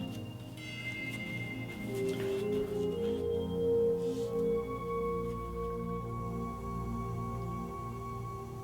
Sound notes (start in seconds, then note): 0.9 brushing